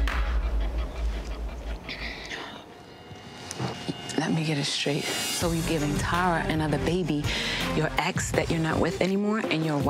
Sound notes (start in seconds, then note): 0.9 exhales